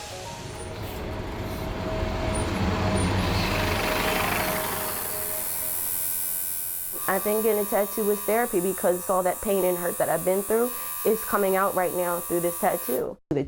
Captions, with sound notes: (bus engine roars) (tattoo gun buzzes) - I think getting a tattoo was therapy because all that pain and hurt that I've been through is coming out right now through this tattoo.